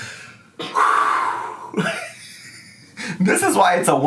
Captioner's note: exhales